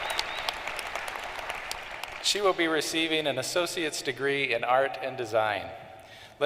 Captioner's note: cheering and applause